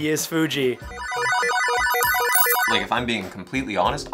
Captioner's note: beep